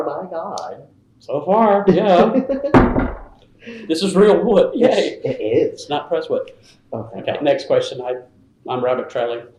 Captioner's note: knocks on the table